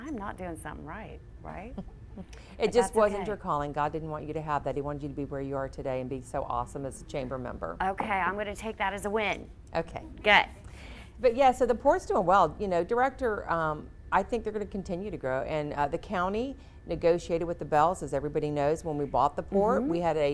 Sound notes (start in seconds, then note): 2.2 chuckles